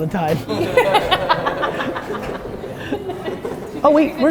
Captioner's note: group laughter